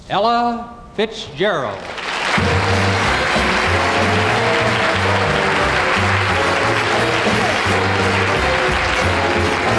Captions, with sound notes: - Ella Fitzgerald. (audience applauds) (upbeat jazzy music)